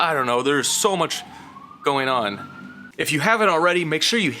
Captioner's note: sirens wailing